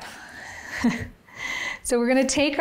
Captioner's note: laughing